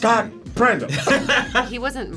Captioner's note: laughs